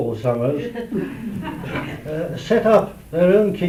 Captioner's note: laughter